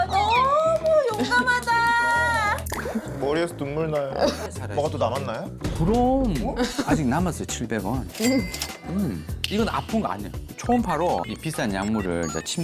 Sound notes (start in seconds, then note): 10.6 reassuring sound effect